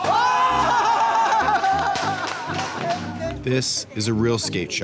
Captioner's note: speaking Japanese; crowd applauds